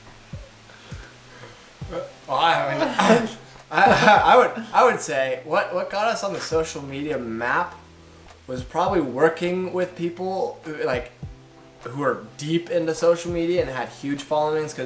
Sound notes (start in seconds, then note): 2.2 stumbles over words; 3.7 laughs